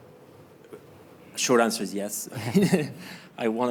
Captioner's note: chuckles